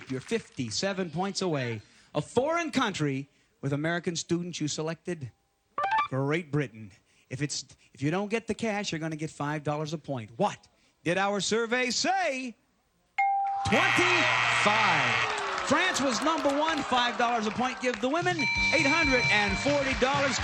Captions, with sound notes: You're 57 points away. A foreign country with American students. You selected Great Britain. If you don't get the cash, you're going to get $5 a point. What did our survey say? [ding] 25. [buzzer] France was number one. $5 a point give the women $840.